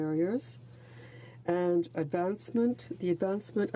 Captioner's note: speaking in french